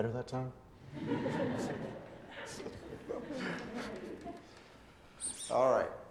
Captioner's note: students laughing